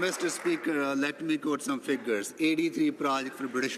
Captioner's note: some Applause